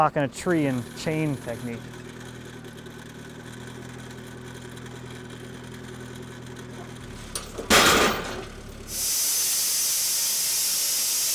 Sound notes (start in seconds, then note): 4.6 metal cracks